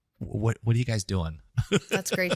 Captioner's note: laugh